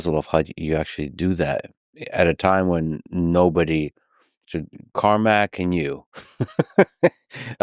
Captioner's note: laughs